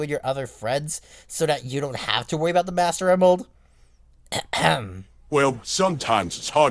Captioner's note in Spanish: carraspea